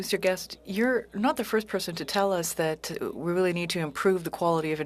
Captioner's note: speaking French